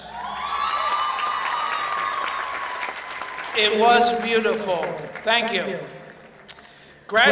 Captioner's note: applause